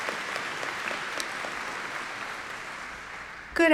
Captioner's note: applause